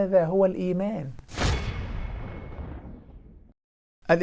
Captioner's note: sound effect